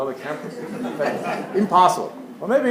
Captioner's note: laugh